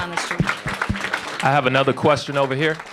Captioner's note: applause